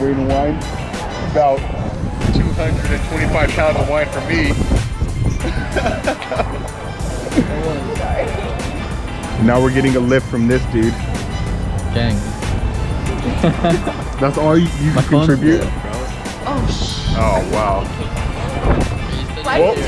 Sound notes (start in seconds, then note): 5.4 laughter